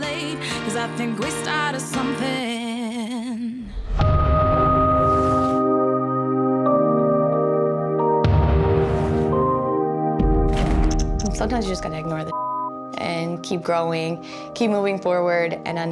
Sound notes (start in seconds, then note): 4.2 somber music; 12.3 beep